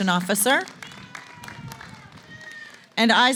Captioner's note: applause